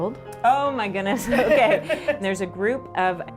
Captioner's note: laughing; laughs